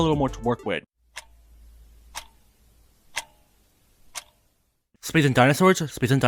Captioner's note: clock ticking